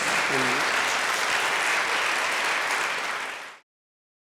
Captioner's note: applause